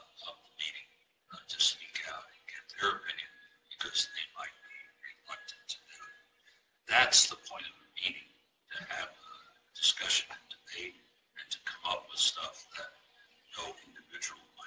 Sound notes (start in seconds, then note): 6.4 murmurs